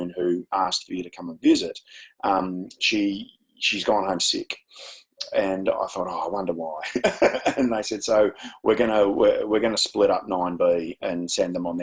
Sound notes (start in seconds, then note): 6.8 chuckles